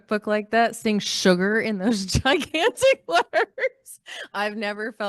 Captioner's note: laughs